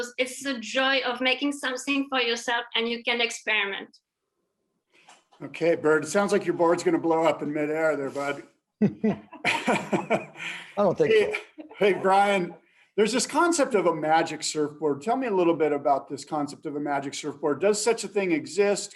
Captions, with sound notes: It's the joy of making something for yourself and you can experiment. Okay. Bird, it sounds like your board is going to blow up in mid-air there. [LAUGHTER] Hey, Brian, there's this concept of a magic surfboard. Tell me a little bit about this concept of a magic surfboard. Does such a thing exist?